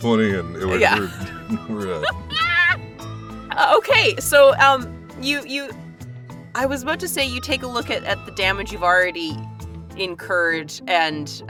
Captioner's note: chuckles